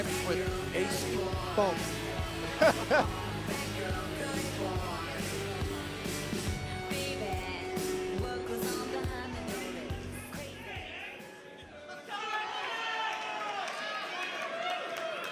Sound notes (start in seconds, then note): 2.9 crowd chatter